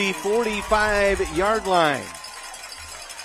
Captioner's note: applause